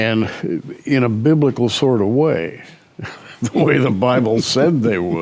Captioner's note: chuckles